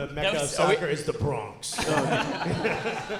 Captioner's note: audience laughing